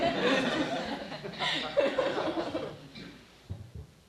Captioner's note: laughing